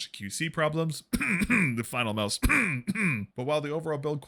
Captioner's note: cough